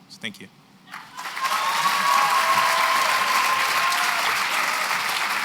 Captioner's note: cheering and applause